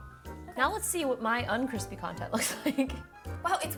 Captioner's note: laughs